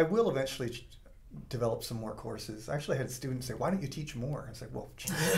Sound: laugh

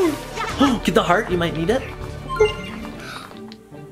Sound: game noises; gasps

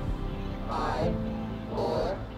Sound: crowd

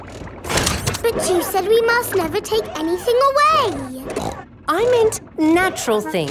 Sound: snorts

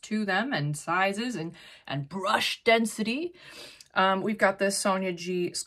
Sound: sniffles

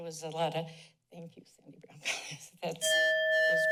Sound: chuckles; timer dings

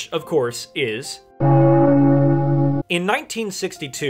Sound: bell chime

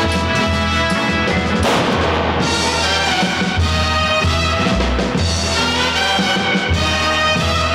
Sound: dramatic music; gun firing

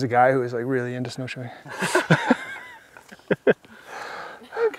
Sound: both laughing

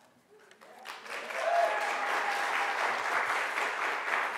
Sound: crowd applauds

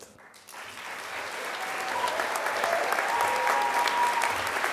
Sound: crowd applause

